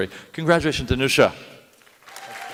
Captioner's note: applause